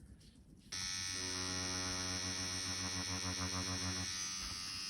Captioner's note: machine vibrates